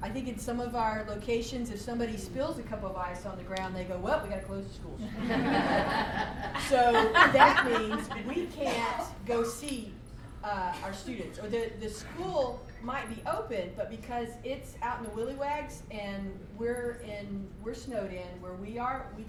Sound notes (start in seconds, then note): 5.0 laughter